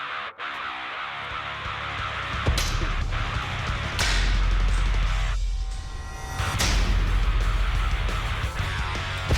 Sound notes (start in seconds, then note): 2.1 blade impact sounds